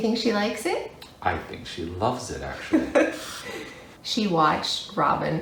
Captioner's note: laughter